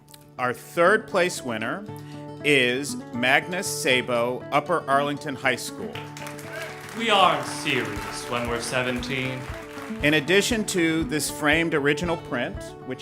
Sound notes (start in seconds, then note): 5.9 ^applause^